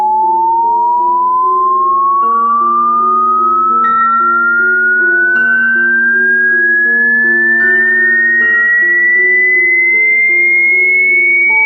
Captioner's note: ringing